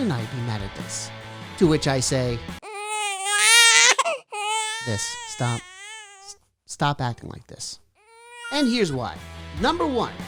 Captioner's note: crying baby effect